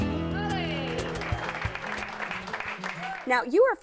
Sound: cheers and applause

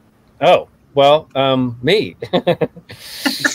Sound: laughing

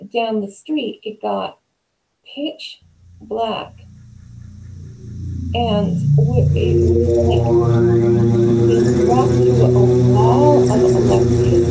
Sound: spooky sound transition

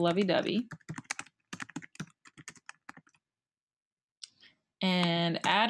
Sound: keyboard clattering

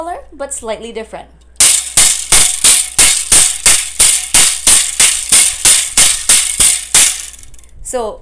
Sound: bamboo sound

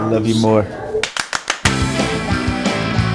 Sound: clapping

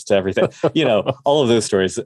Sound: laughs

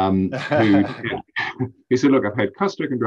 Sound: laughs

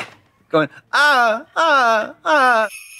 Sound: Katya sexy moaning; sleigh bells jingling

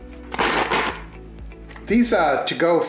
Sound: metal clanging

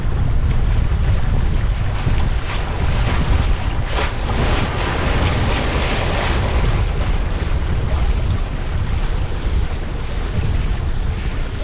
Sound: wind and wave noise

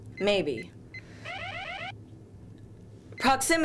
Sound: alarm

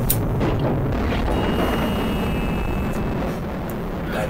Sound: thump, ding and explosion sound

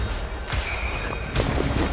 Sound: whistle

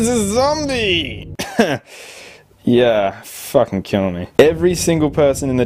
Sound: cough

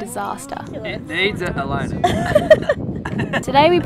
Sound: laughing

